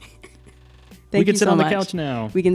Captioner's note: laughs